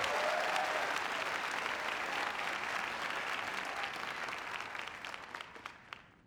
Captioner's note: applause